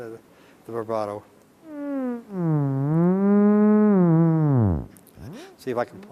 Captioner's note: electronic whirling sounds